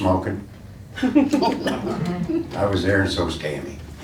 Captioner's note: laughing